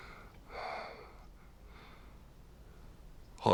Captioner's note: sighs